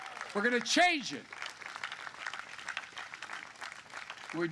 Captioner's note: applause